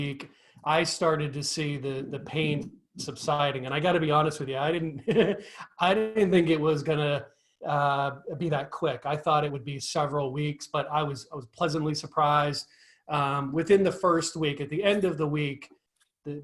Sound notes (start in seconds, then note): 5.2 laughs